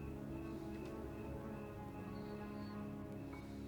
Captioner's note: none